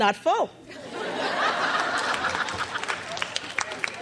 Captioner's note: crowd laughs